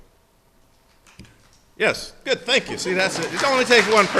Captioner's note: faint applause